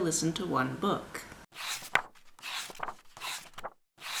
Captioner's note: pages turning